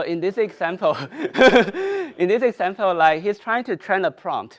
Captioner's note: laughs